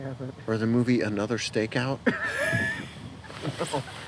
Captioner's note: sniggering